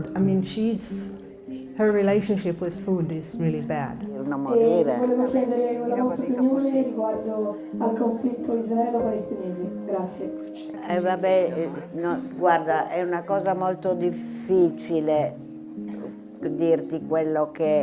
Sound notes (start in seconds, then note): 4.5 speaking in foreign language; 5.4 attendee speaking in foreign language; 11.3 speaking in foreign language